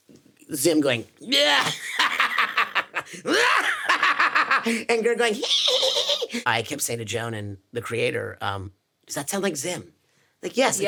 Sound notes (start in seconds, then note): 2.7 imitates Zim laughing; 5.4 imitates GIR laughing